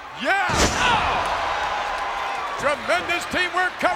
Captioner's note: audience cheers